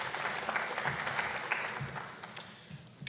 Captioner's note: applause